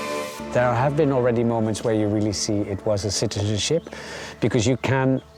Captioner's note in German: auf Englisch